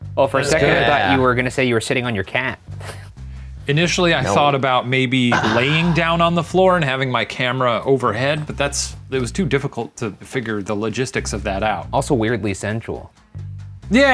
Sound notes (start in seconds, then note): 3.2 chuckles